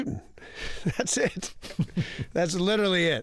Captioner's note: laughter